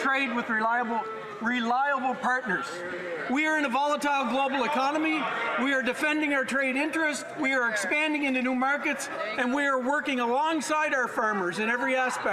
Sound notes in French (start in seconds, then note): 0.0 voix de l'interprète